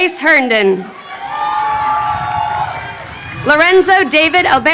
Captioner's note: crowd cheering